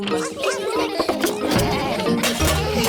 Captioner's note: laughter